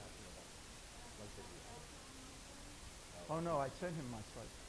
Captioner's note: voiceover